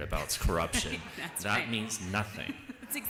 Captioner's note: laughter